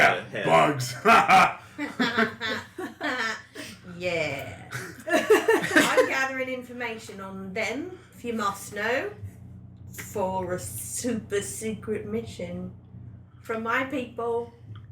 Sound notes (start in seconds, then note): 3.0 laughs; 7.5 joins in the laughter